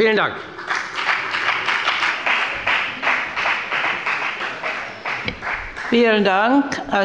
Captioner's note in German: Beifall bei der FDP